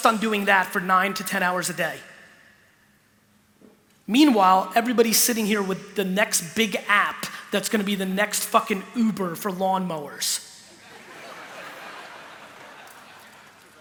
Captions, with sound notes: on doing that for nine to ten hours a day. Meanwhile, everybody's sitting here with the next big app that's gonna be the next fuckin' Uber for lawnmowers (laughter).